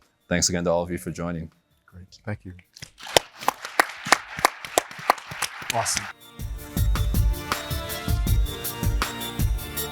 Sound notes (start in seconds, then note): 2.9 audience applauds; 5.4 soft music